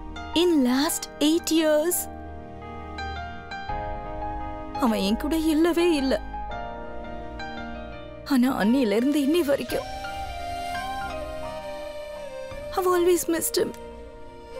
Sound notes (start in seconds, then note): none